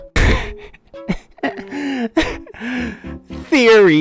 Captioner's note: laughs